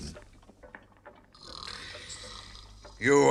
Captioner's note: snores